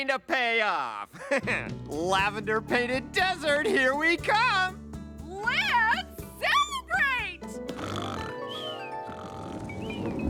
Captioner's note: snoring